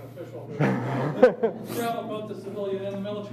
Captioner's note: laughing